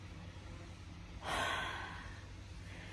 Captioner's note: sighs heavily